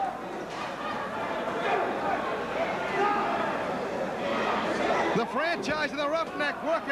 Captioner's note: crowd chatter